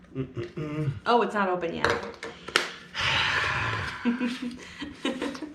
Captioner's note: sighing